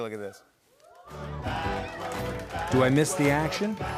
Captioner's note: cheering